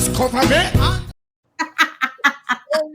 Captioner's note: laughter